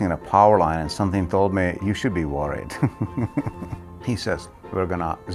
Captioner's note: laughing